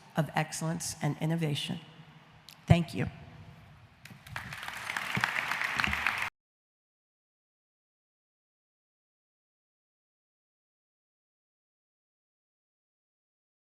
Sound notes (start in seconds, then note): 4.1 audience applauding